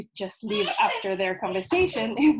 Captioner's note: child crying